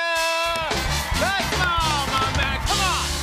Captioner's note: cheers and applause